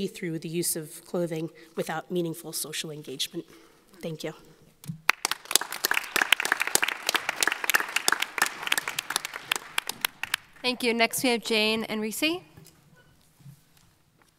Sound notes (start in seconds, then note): 5.0 audience applauding